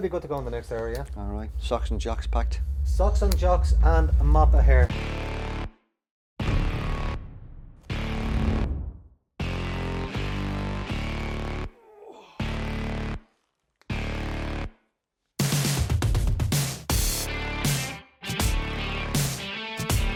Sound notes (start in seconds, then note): 5.9 dramatic music; 11.7 groaning